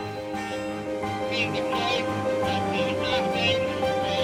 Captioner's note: radio sounds